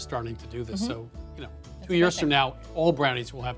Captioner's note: chuckles